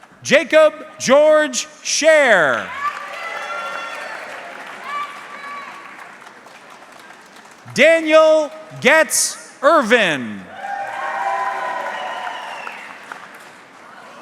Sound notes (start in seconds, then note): 0.0 audience clapping; 2.6 audience clapping; 10.4 audience cheering